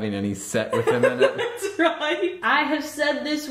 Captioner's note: laughing